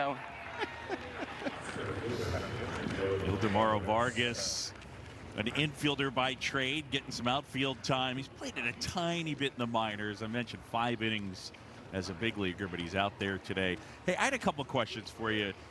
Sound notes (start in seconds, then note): 0.3 laughing